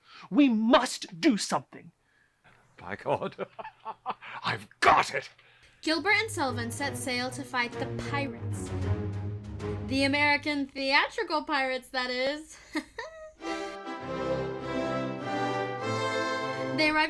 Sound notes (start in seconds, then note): 3.1 chuckles